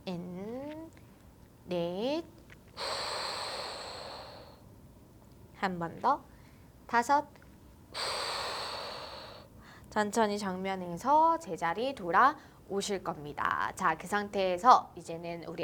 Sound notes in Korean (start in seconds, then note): 8.0 한숨